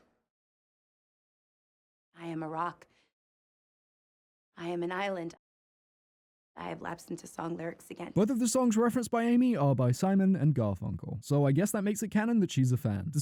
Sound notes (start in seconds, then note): 3.0 deafening silence; 5.4 more deafening silence